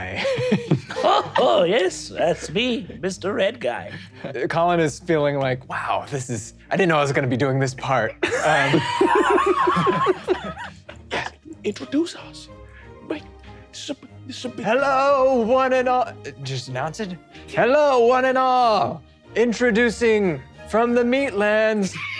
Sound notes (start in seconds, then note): 0.2 laughing; 8.2 all laughing; 21.9 all chuckling